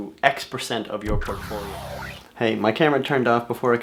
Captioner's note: static